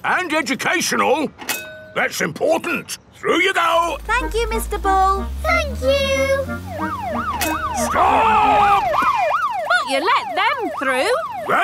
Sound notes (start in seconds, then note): 7.1 siren wailing